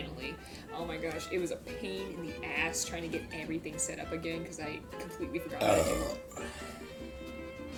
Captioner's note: big burp